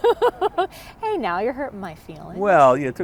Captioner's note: laughter